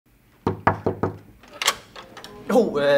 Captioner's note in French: Un étudiant cogne à la porte